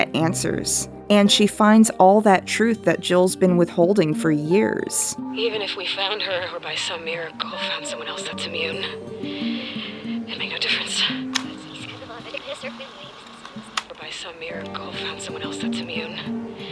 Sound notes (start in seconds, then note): 5.3 voice on recorder; 11.3 rewinding sounds